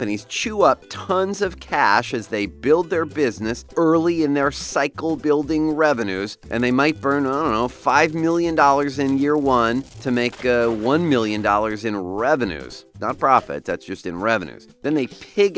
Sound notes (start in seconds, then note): 8.4 stack of cash burning